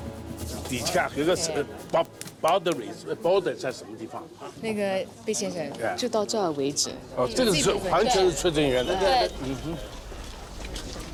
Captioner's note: speaking Chinese